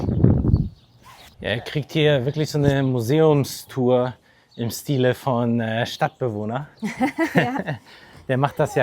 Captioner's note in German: gelächter